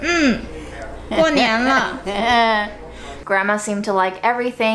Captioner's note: grandma speaking Chinese; speaking Chinese